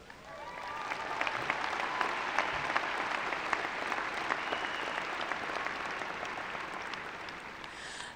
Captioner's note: cheering and applause